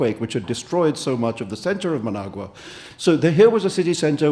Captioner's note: none